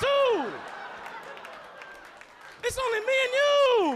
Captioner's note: audience laughing